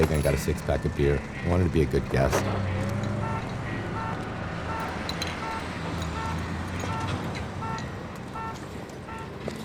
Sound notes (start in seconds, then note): 3.2 honking; 3.4 bottles clanging